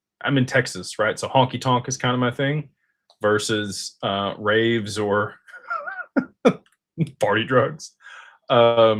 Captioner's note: laughter